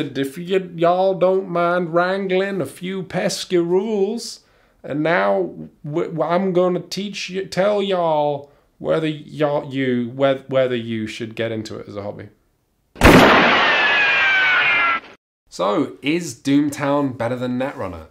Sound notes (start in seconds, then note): 0.1 bad Wild West accent, again; 4.7 still accented, haltingly; 13.0 shot and bullet ricochet